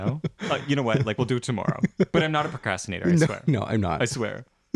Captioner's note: laugh